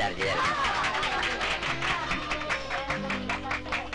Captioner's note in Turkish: Alkışlar, bravo sesleri